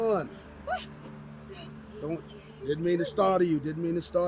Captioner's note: screams